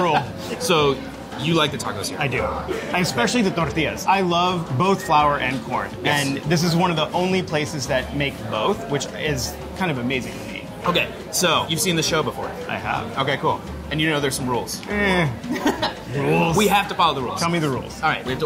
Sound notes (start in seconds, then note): 15.1 laughing